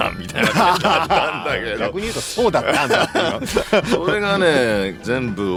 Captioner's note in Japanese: 笑い